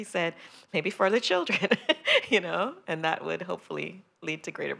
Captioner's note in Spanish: risas